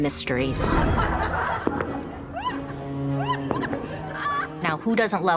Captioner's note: students laughing